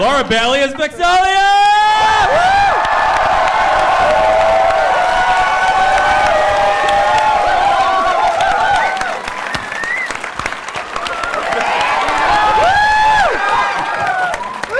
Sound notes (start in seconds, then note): 1.4 cheering